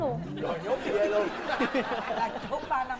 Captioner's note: laughing